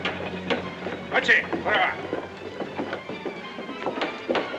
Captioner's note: suspenseful music; speaking in Japanese; suspenseful music